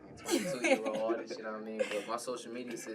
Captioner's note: laughing